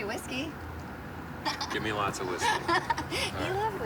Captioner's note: blonde woman laughs